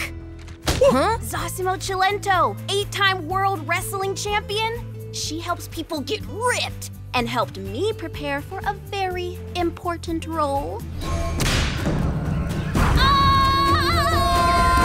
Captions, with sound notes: Zosimo Cilento, eight-time world wrestling champion? She helps people get ripped and helped me prepare for a very important role. [screaming]